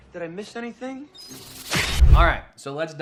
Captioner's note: valve screeching